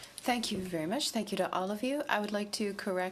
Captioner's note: speaking in french